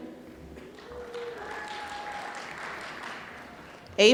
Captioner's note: applause